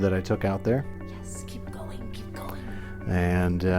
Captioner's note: whispering